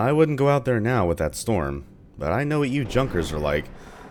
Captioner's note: thunder